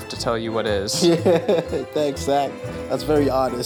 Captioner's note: laughs